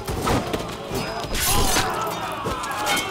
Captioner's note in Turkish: İnliyor